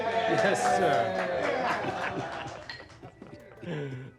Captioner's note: applause, laughter